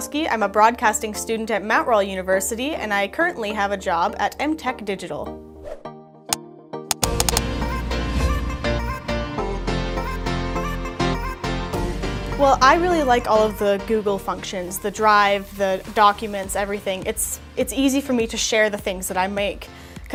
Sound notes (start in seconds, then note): 6.2 funky upbeat music; 6.9 clicking